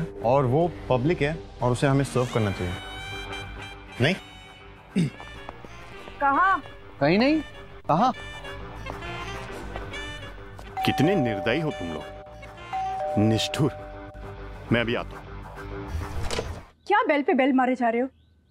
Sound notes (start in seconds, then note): 4.9 Clears throat; 12.7 Doorbell ringing; 16.1 Door opens